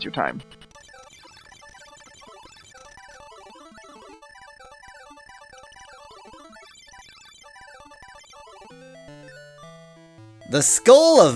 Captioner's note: awkward silence